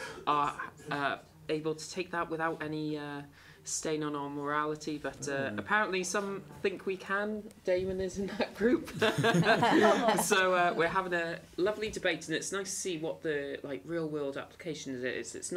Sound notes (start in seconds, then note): 8.8 laughter; 8.9 laugh